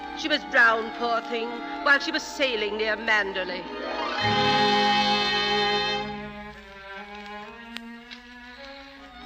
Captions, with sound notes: She was brown, poor thing, while she was sailing near Manderley. (SIREN WAILING)